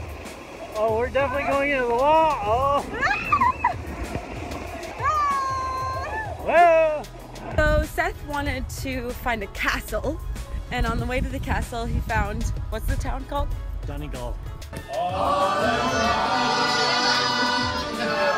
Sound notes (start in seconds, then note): 3.1 screams